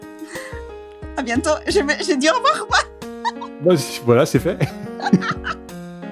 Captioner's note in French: rires